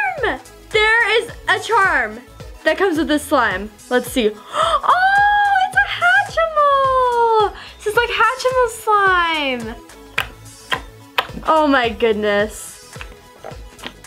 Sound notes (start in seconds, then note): 4.4 gasp